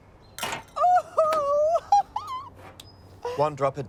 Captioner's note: laughing joyously